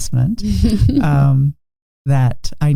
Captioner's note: chuckling